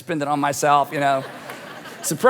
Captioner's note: audience laughing